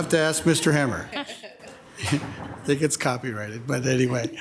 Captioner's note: attendees chuckle